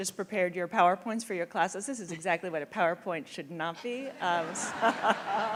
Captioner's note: laughter